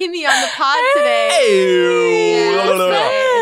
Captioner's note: all cheering